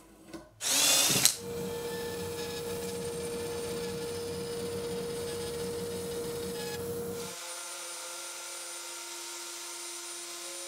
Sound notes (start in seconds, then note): 0.6 bandsaw whirring; 0.7 drill whirring; 7.6 router whirring